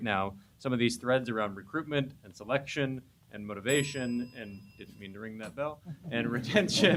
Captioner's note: ring